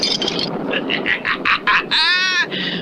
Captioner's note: Simon Bar Sinister Laughs